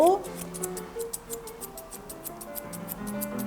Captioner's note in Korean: 가위질 소리